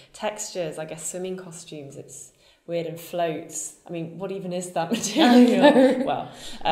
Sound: laughs

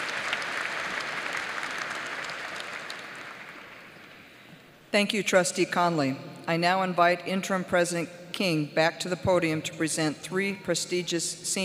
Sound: applause

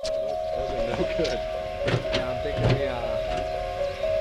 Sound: flick flick

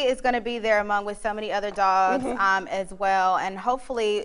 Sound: laughter

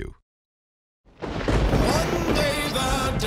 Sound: thunder cracking

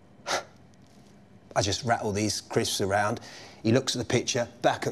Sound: scoffs

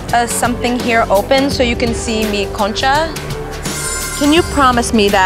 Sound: speaking foreign language

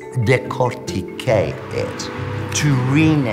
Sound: speaking French

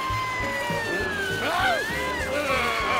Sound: grumbles

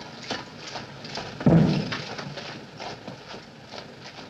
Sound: bump!

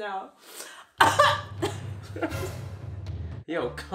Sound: coughs

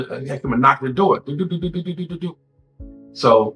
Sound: imitates door knock

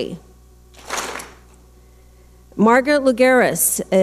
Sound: clap smack

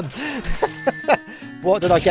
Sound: laughter

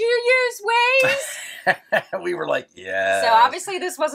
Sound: laughs

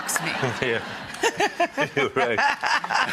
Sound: laughs loudly

